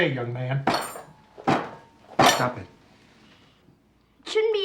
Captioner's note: banging